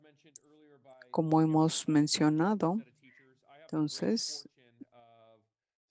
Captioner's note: speaking in foreign language